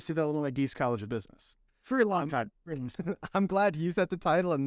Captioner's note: laughter